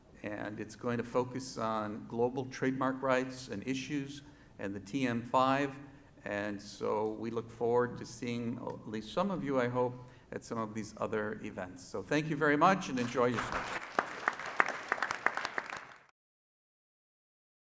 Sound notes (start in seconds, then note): 12.9 audience applauds